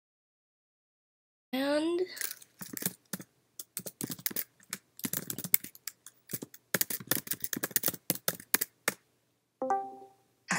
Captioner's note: typing sounds